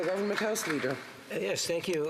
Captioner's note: applause